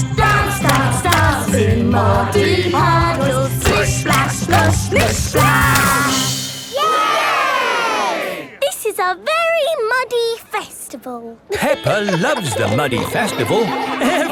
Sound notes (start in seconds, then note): 6.6 all cheering; 11.4 laughing